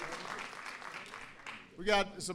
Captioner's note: applause